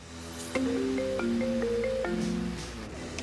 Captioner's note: phone ringing